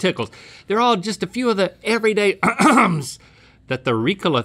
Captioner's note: clears throat